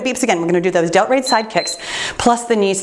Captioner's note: timer beeps